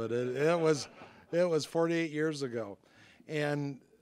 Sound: audience laughing

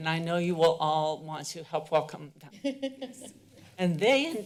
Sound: laughter

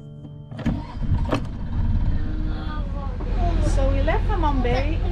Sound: boat engine roars

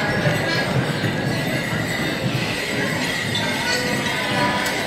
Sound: bells jingling

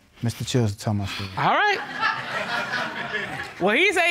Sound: audience laughing

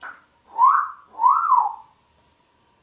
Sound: wolf whistling

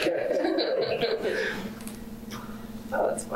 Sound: laughter

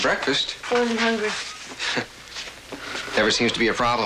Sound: chuckles

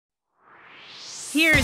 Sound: swoosh

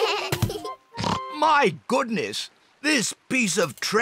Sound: oinks

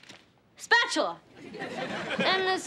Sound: audience laughing

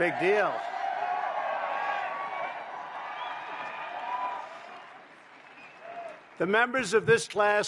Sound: applause

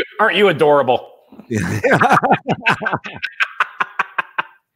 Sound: laughing

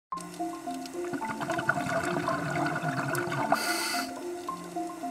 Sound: sound of breathing through snorkel

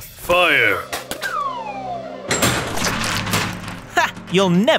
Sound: slide whistle descends

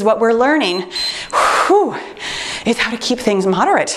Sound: timer beeps

